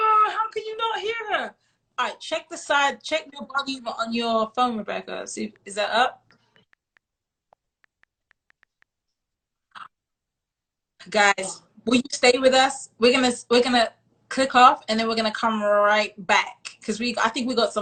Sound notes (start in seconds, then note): 6.4 brief silence